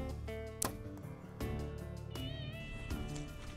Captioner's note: arrow release